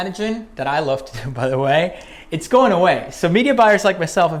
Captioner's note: laughs